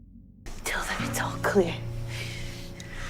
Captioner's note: voiceover